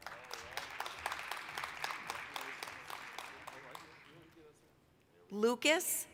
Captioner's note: applause